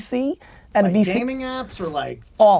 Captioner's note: pat